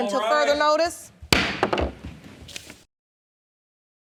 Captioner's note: gavel banging